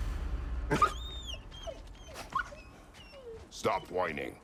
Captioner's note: whining